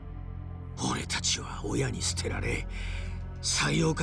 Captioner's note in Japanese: none